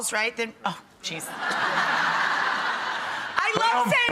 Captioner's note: audience laughs